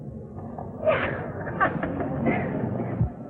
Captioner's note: laughs